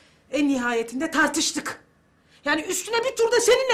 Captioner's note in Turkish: none